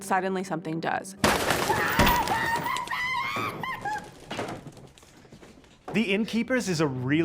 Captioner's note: Claire shrieks; wings flap